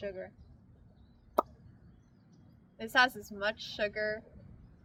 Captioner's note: pops lips